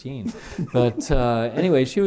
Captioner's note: chuckle